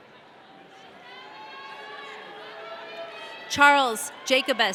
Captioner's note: audience cheering